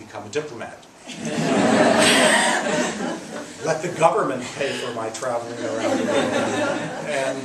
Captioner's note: laughs; laughs